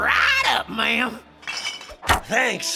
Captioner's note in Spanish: botellas sonando